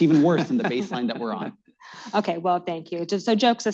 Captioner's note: laughter